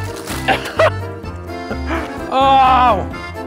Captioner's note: laughs